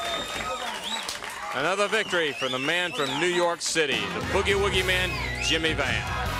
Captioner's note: crowd cheering